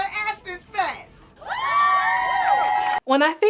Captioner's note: crowd cheering